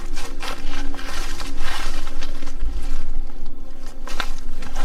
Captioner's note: leaves rustling